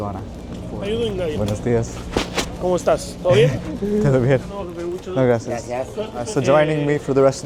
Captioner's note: foreign language